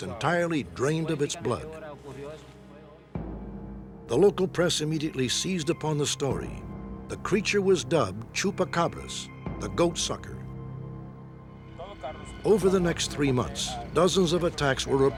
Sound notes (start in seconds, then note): none